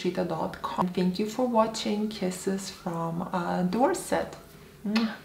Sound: kisses

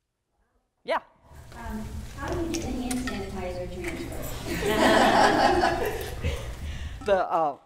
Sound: audience laughs

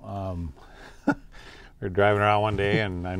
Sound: chuckles

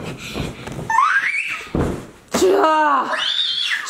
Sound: screams

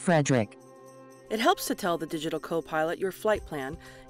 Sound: voiceover

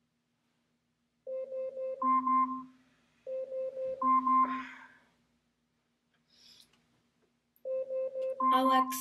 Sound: Alexa alarm

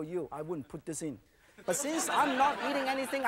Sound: audience laughing

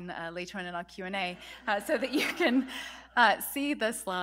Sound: laughter

